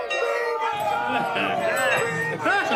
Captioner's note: gang laughing